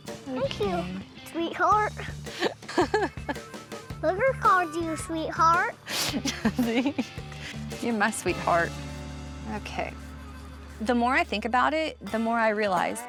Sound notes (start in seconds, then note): 2.3 giggling